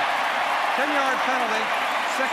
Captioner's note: cheering